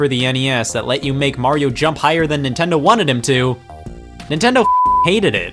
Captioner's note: beep